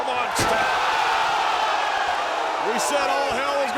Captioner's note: audience cheers